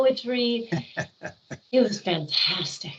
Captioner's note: laughing